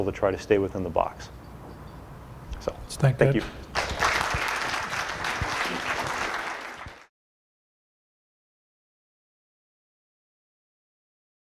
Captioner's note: applause